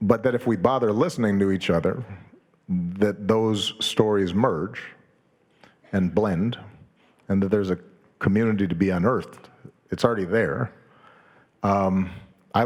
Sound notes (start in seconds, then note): none